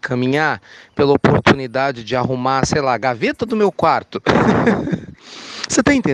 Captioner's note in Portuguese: risos